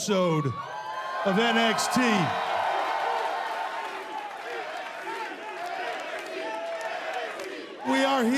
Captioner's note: crowd cheering